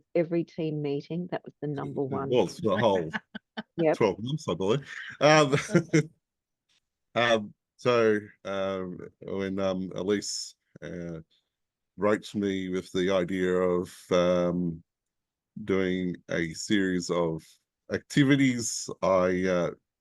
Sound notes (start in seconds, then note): 5.6 laughs